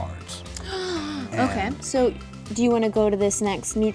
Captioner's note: gasps